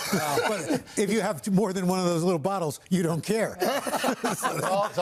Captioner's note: laughter